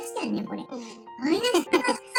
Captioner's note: laughs